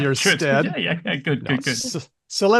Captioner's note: laughs